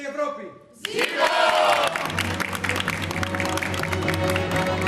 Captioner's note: χειροκρότημα